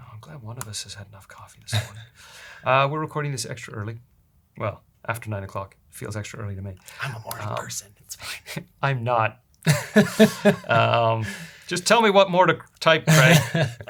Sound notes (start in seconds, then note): 9.6 laughs